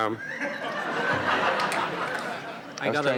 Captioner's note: audience laughs